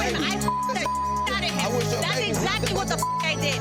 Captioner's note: beep